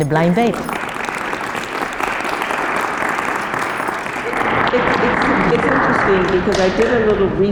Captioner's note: applause